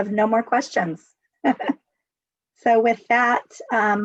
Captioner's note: giggles